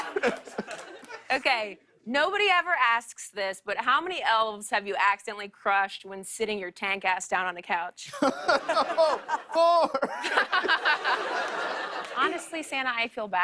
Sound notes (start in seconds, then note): 8.1 chuckles; 10.0 laughter